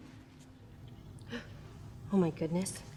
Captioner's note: Dalia gasps